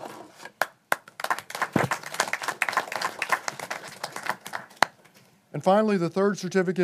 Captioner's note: applause